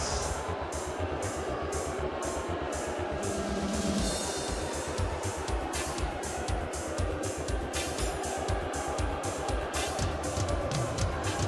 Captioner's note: crowd cheering